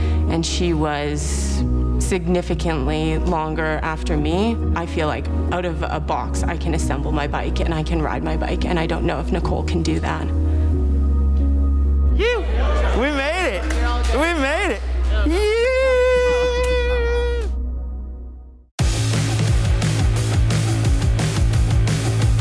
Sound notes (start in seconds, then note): 15.3 cheering; 18.8 energetic upbeat music